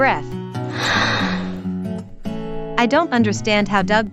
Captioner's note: deep Breath